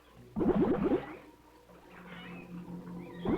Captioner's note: bubbling